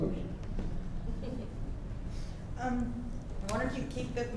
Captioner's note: laughs